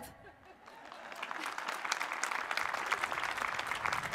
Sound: applause

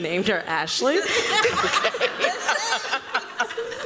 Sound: laughter

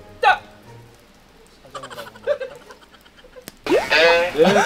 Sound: couldn't resist laughing

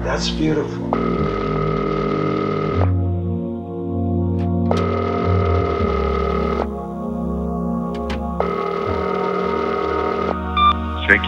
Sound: phone rings

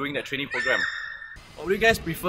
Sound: fan girl Scream

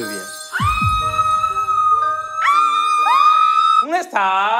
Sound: screaming

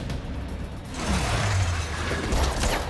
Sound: motorcycle skids

